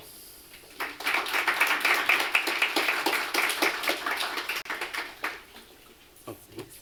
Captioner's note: applause